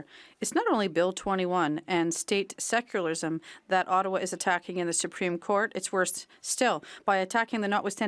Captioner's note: speaking French